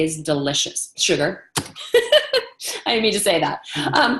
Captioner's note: laughs